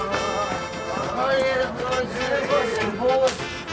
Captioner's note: mumbling drunkenly